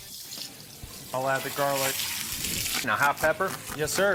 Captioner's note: pan sizzling